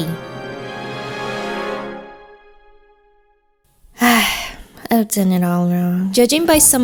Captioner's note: sigh